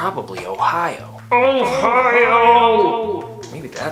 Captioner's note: frustrated groan